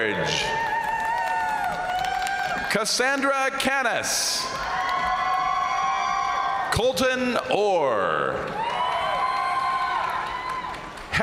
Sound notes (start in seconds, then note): 0.0 crowd applauding; 0.1 crowd cheering; 3.8 crowd applauding; 4.5 crowd cheering; 7.8 crowd applauding; 8.3 crowd cheering